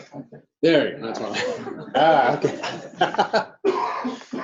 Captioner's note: laughter